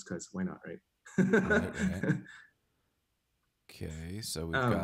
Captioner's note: chuckles